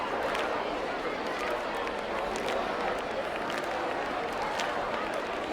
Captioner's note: crowd clapping and chattering indistinctly